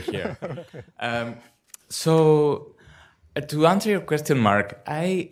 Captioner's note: laughter